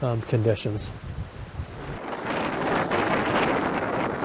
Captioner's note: wind blowing